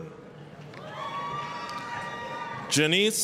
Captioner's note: applause, cheering